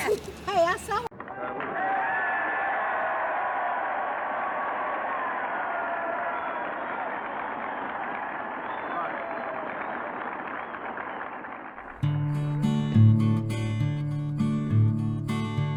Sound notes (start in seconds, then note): 2.1 sound of cheering crowd for golf cart